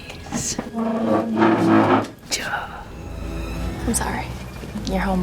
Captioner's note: chair scraping